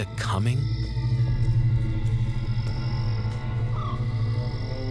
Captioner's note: insects chirring